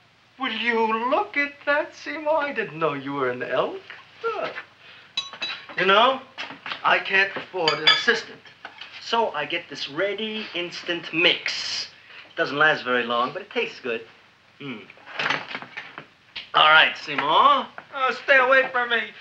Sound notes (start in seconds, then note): 5.2 tooth clinks